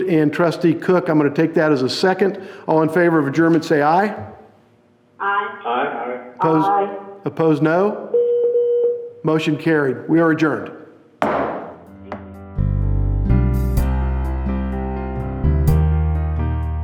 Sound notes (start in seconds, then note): 8.1 phone beeping; 11.2 gavel banging; 11.9 peaceful music